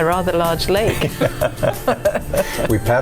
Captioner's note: laughing